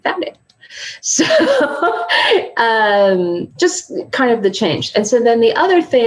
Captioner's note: laughs